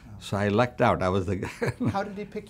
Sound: laughs

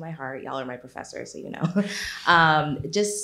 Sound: laughs

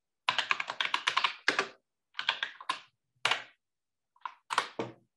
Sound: keyboard clattering

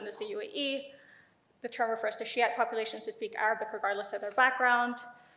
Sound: speaks in foreign language

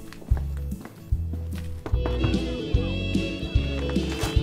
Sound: knocking on door

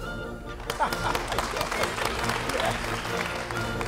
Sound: applause

